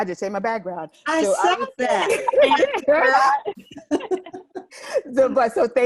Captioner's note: laughter